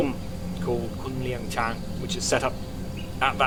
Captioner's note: speaking in foreign language